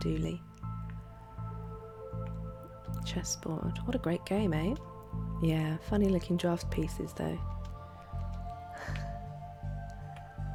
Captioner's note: laughs